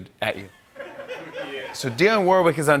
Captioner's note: laughter